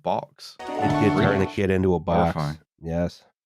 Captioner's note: transformation sound effect